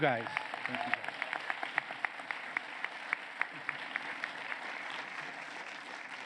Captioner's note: applause